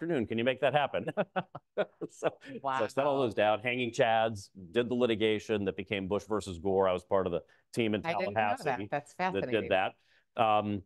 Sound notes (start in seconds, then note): 1.0 laughs